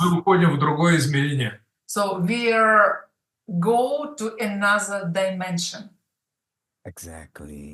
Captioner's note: Russian